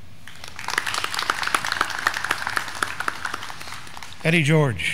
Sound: graduands clapping

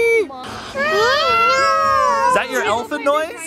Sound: imitating an elephant

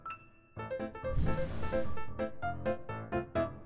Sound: blowing sound

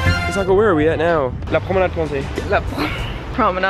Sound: speaking in foreign language; laughing

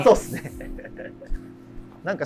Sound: laughing

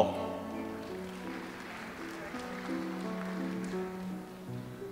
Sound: audience applauds

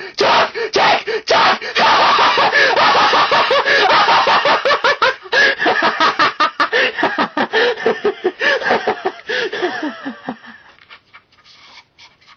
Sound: maniacal laugh

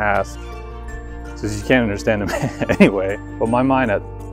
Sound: laughs

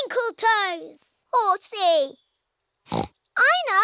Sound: oinks

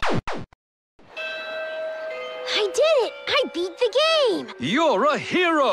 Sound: school bell

